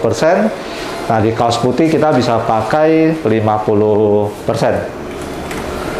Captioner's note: printer machine sound